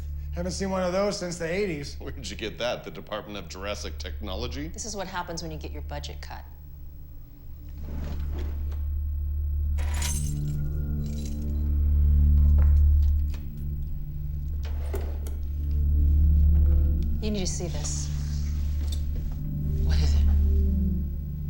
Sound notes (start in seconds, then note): 9.8 keys rattling